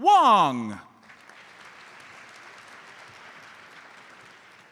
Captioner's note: audience applauds